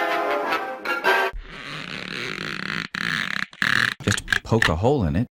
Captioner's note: stretching noise